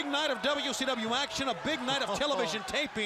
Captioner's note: crowd chatter